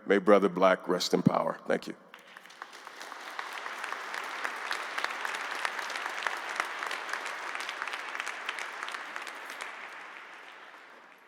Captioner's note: applause